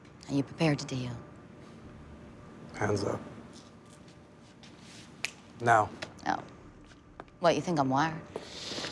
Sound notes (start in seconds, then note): 5.2 fingers snap